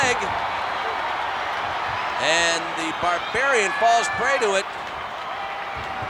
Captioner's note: applause